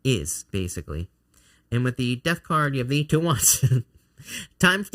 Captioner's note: laughing